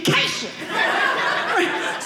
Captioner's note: audience laughing